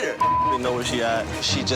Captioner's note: beep